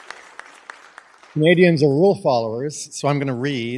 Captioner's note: applause